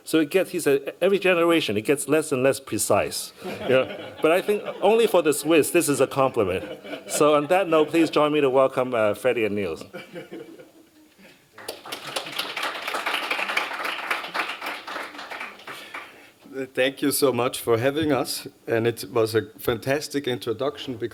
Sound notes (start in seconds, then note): 11.5 applause